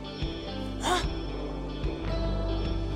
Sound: gasps

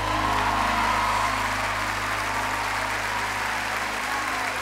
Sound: audience cheering

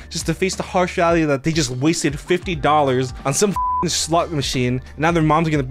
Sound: beep

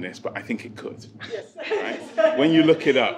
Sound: laughs

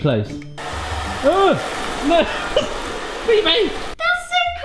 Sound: yelling

